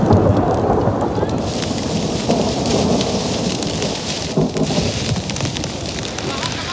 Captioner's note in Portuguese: trovoadas; Barulho de chuva